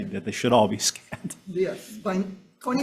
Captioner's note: chuckling